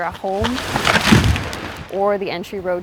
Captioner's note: tree crashes